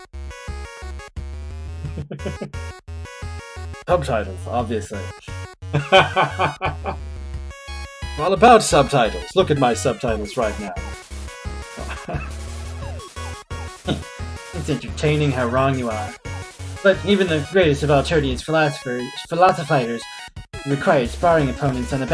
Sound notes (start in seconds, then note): 1.8 chuckles; 5.7 laughs; 11.7 chuckles